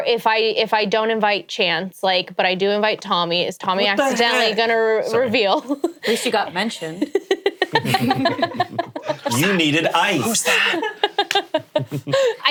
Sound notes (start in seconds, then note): 6.8 laughing